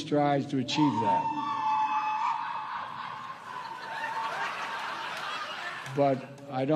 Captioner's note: howling echoes